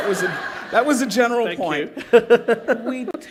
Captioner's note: laughter; laughter